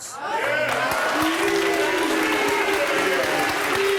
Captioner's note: audience cheering